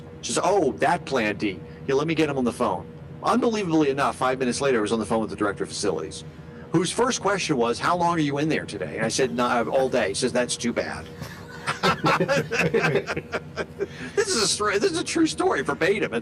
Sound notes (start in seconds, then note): 11.2 both laughing